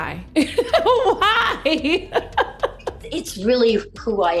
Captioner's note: laughs